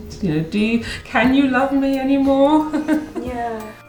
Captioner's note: laughs